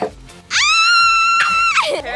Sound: screaming

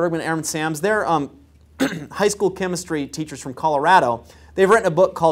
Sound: cough

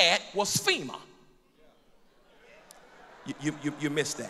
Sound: laughter and agreement

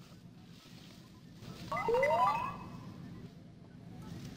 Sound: beeps in plea

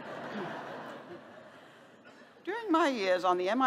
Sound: laughter

